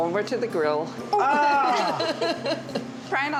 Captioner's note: laughs